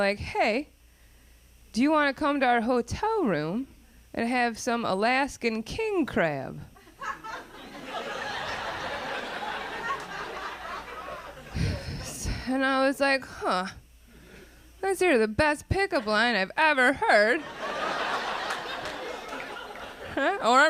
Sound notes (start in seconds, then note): 6.8 audience laughing; 17.3 audience laughing